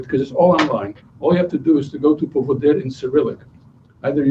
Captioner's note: non-english speech